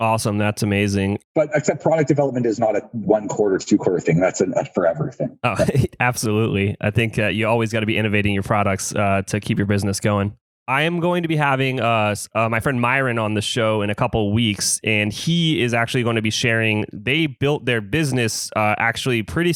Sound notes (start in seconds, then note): 6.3 laughs